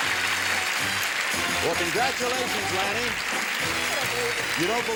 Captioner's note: applause